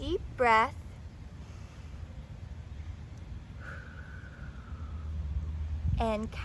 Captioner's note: deep breath